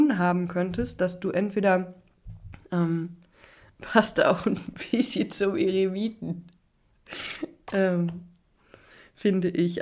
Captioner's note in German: gelächter